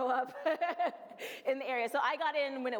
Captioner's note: laughs